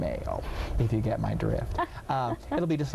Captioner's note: laughing